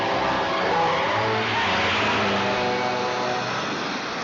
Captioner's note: tires Squealing